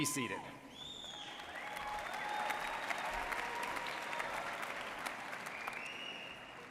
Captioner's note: audience cheering and applauding